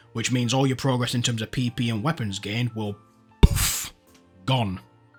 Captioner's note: puff